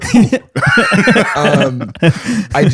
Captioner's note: laughter